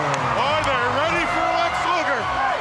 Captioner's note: crowd cheering